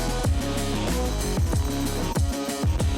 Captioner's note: none